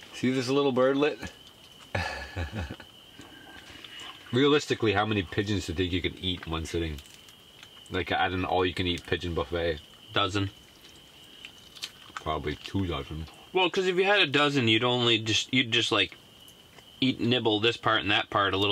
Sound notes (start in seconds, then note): 10.6 wet chomping